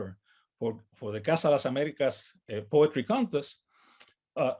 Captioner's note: speaks in native language